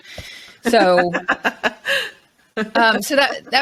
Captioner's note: laughs